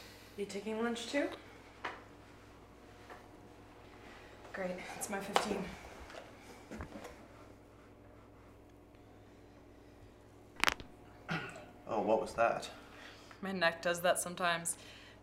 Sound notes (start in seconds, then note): 10.5 cracks neck